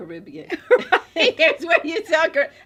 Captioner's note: laughing